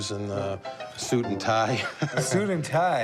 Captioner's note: laughs